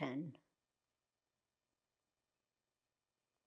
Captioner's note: pauses 8 seconds